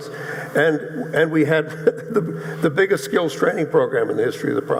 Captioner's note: laughs